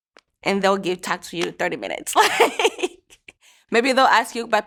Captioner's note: laughs